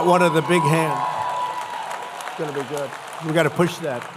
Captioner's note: applause